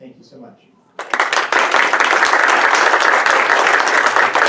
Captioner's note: audience applauds